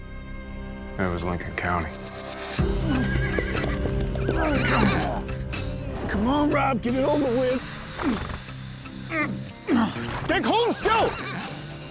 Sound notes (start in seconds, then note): 2.9 grunting, horse neighing; 7.9 grunting